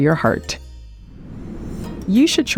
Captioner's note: transition whooshing